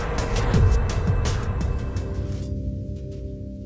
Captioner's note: eerie, mysterious transition sound